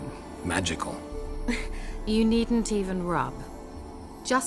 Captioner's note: chuckle